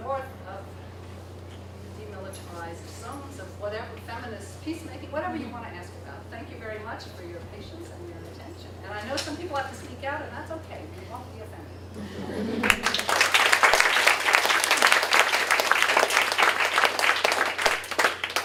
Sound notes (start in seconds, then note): 12.6 applause